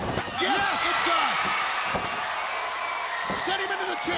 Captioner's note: crowd cheering